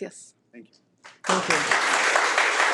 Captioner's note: speaking in foreign language; board members and audience clapping